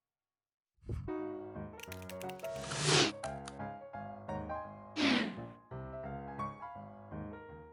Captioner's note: jazz piano; logo whooshes